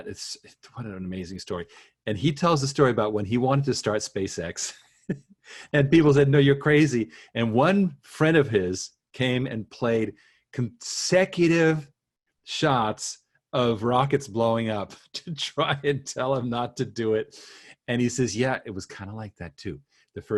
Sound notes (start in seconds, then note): 5.1 laughs